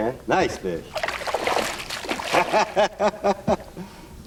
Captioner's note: laughter